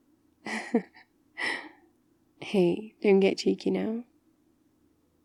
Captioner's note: laughs